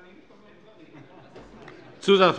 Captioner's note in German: Heiterkeit